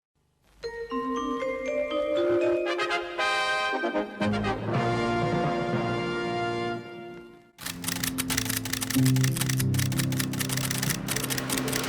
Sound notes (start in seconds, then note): 0.6 playful music; 7.6 camera shuttering